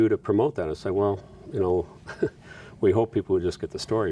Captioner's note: chuckles